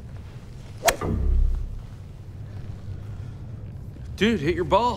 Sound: swinging club

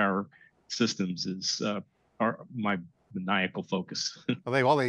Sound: laughs

